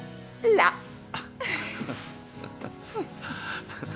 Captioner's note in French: rires